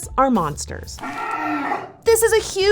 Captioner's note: roar